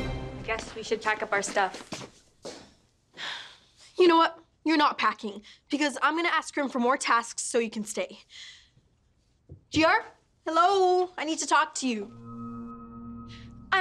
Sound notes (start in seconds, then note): 4.4 sighs; 12.1 pulsating